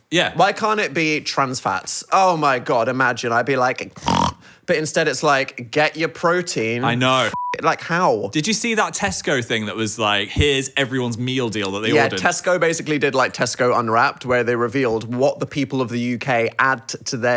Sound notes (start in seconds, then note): 4.0 snorts; 7.2 beep